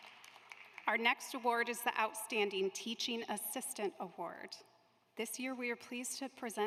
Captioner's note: applause